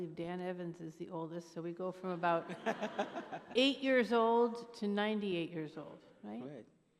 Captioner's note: laughter